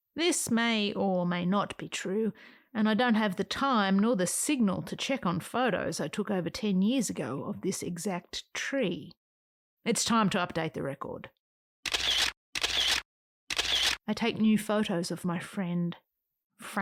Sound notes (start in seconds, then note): 11.8 SFX of camera taking photos